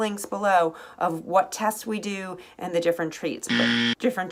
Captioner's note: buzzing